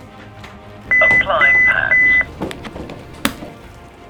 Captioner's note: beeping